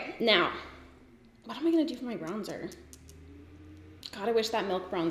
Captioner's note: nails tapping